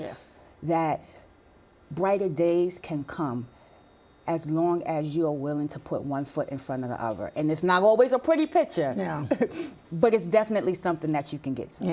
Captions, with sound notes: that brighter days can come as long as you are willing to put one foot in front of the other. And it's not always a pretty picture. - Yeah. - [chuckles] But it's definitely something that you can get to.